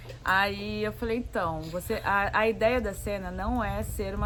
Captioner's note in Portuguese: none